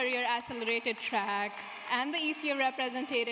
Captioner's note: applause